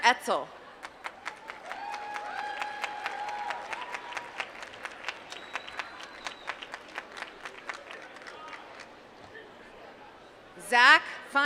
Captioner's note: applause